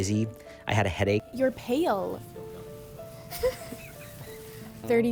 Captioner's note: chuckling